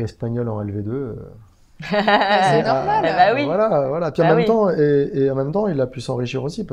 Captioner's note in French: rire